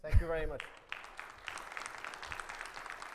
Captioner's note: audience applauding